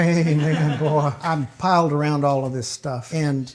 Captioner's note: laughing